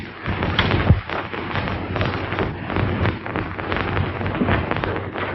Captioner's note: rattling